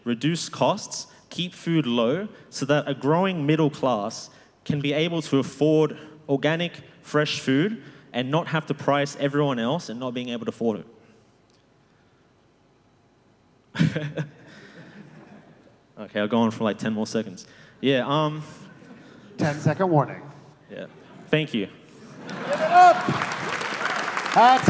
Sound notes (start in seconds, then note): 13.7 laughter; 13.8 laughs